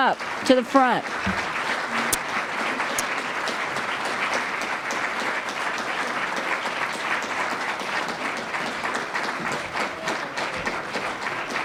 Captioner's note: applause